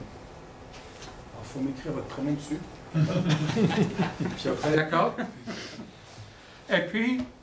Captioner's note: laughter